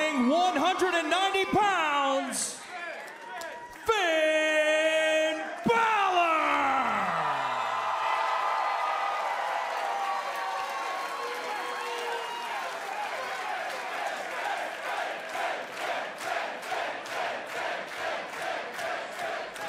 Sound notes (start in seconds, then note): 8.3 crowd cheering